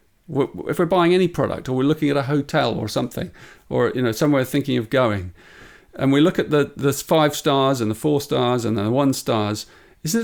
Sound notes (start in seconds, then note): none